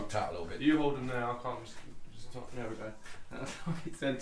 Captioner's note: laughs